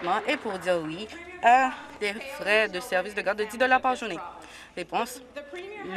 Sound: applause

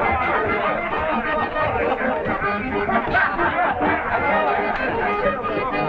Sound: ambient of the crew - music and guffaws

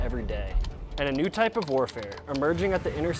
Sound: keyboard clacking; rocket whooshing

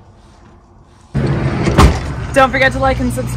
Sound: door whooshing

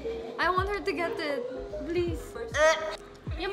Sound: retches

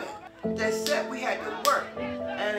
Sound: claps hands

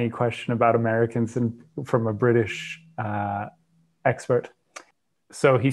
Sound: clicks tongue

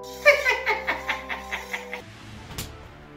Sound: cackling laughter

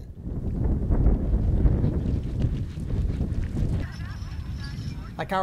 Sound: horse galloping

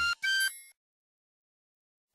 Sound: moment of silence

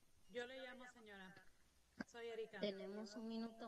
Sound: speaks Spanish; woman speaks Spanish

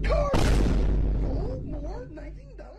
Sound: faint vine boom

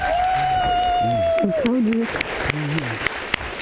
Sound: audience applauding

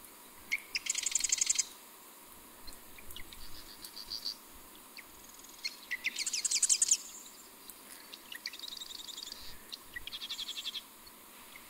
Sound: Marsh wren buzzing and bird song

